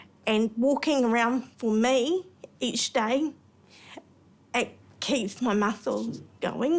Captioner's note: none